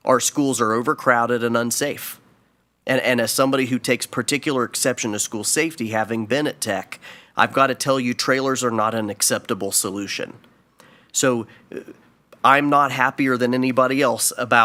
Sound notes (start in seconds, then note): none